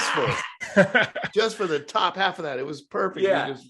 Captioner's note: laughs